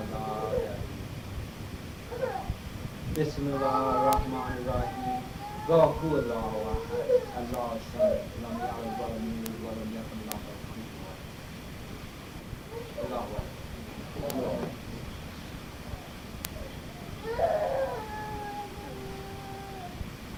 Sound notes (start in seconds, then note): 0.0 speaking in foreign language; 7.5 crowd talking; 10.8 speaking in foreign language; 14.6 crowd cheering; 20.1 speaking in foreign language